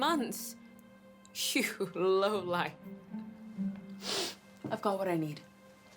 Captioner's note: sniffs